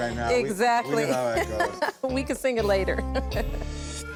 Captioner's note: laughs